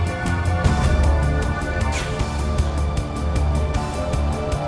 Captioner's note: gun fires; dart whooshes